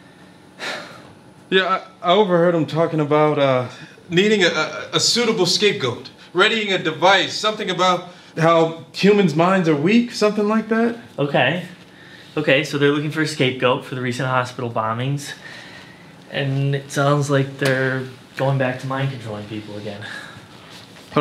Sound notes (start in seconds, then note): 0.6 Wesley sighs